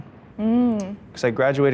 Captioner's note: hums